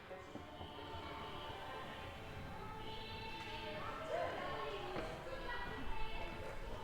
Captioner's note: people chatting indistinctly